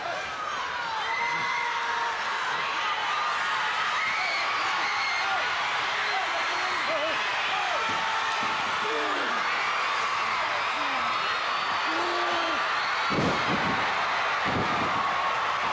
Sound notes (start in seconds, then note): 1.8 audience cheering; 8.2 fist thudding; 12.9 floor banging